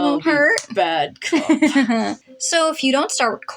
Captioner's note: malicious Laugh